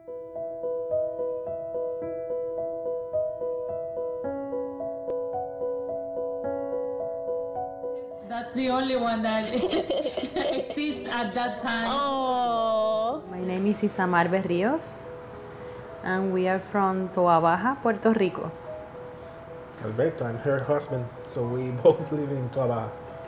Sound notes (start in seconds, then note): 0.2 classical piano music; 9.4 laughing